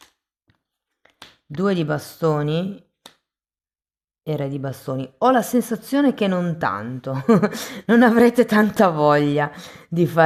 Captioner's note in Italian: risate